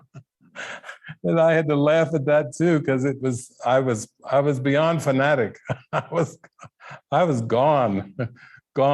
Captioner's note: laughing